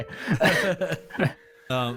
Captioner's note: laughs